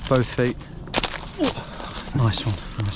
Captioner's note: feet thumping; groaning